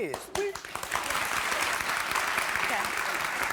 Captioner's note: clapping